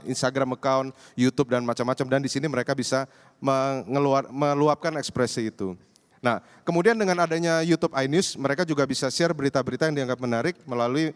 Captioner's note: non-english